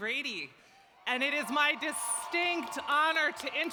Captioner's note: applause